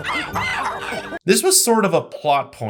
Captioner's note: plays clip of the monkeys making monkey noises